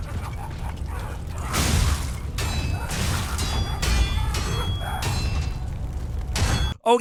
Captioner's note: blows thudding; metal clanking